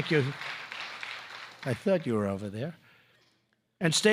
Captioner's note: applause